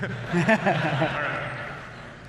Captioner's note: laughter